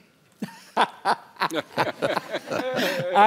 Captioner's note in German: Lacht